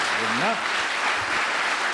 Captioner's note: applause